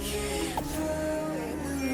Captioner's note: hums along